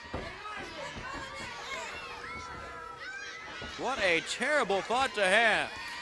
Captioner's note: crowd chatter